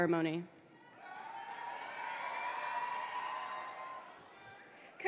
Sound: applause

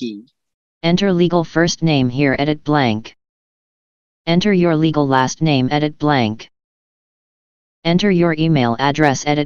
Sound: screen reader voice

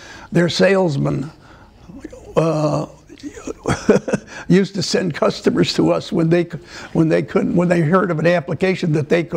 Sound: laughter

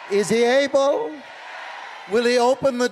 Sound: crowd

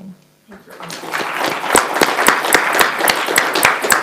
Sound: applauding

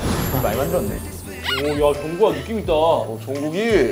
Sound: members are cheering the youngest

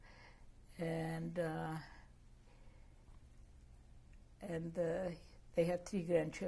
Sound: pauses for 3 seconds

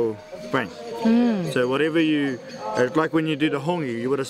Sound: voiceover

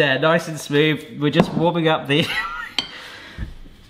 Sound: laughs

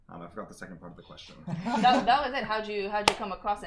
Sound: both laughing

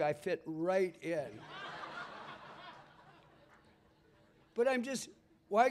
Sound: laughter

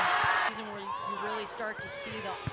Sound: crowd cheering

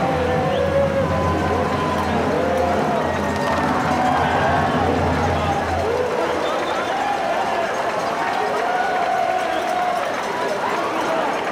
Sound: band playing; cheering

